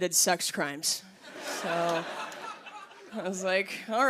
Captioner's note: laughter